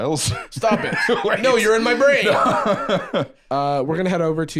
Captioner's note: laughs